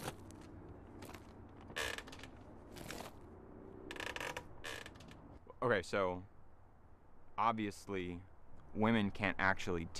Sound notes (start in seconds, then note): 0.8 rustling; 1.6 creaking